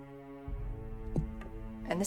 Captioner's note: thud